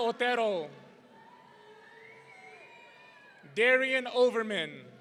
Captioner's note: audience cheering